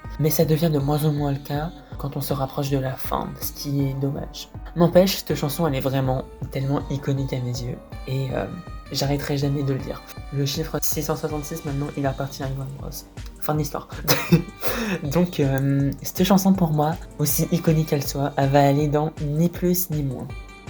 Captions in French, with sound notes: Mais ça devient de moins en moins le cas quand on se rapproche de la fin, ce qui est dommage. N'empêche, cette chanson, elle est vraiment, tellement iconique à mes yeux, Et... J'arrêterais jamais de le dire. Le chiffre 666 maintenant, il appartient à Yoan Bros, Fin de l'histoire. (Haha) Donc cette chanson, pour moi, aussi iconique qu'elle soit, elle va aller dans "Ni + Ni -".